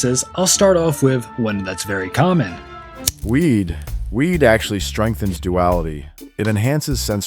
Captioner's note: lighter clicking